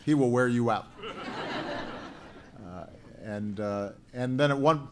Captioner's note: laughter